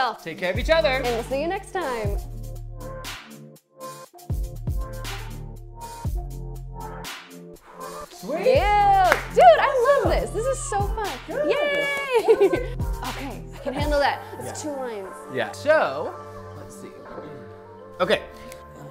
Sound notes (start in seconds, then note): 2.3 upbeat music; 7.9 sighs; 9.0 claps; 11.2 laughs